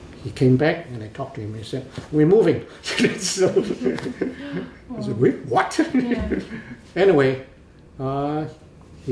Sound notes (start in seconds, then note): 2.9 laughs